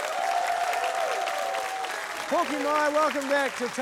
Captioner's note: cheering, applause